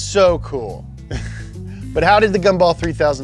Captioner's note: chuckles